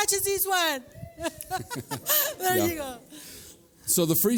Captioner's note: laughs